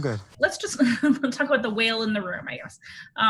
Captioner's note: laughs